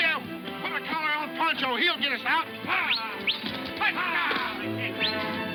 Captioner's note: men whooping, whistling